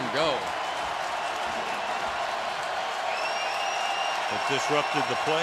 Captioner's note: crowd cheering